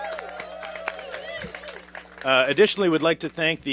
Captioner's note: applause